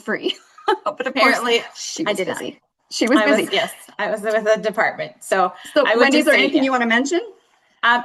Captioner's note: laughter